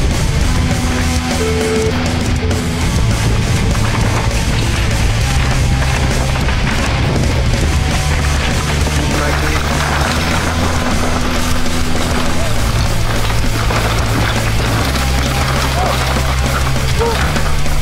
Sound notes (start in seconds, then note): 0.0 dramatic music; 11.6 crowd; 11.6 dramatic music